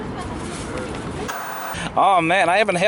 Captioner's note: white noise scratching